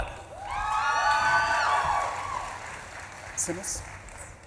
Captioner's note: audience claps and cheers